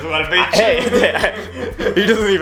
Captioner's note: laughs